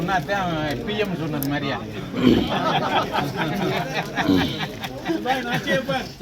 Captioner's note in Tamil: சிரிப்பு